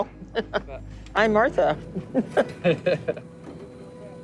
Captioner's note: chuckling